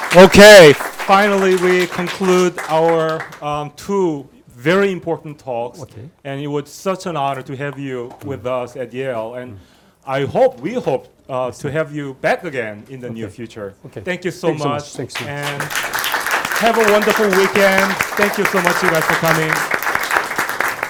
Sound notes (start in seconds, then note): 15.1 students applauding